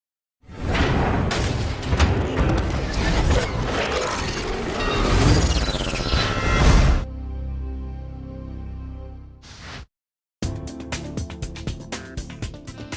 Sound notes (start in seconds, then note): 0.2 slamming of safe door; 4.3 distorted electronic effect; 10.4 upbeat music